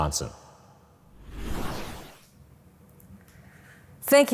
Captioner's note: whooshing sound effect